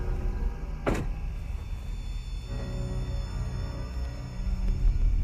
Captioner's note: slow suspenseful music; car door closing